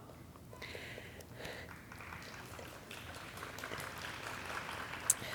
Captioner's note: audience clapping